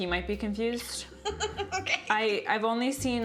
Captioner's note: laughs